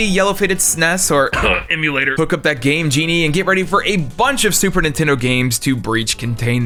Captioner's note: cough